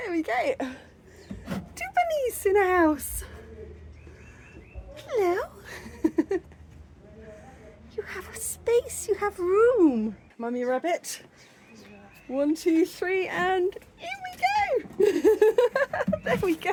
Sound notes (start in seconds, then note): 5.7 laughing